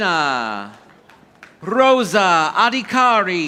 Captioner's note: audience applauding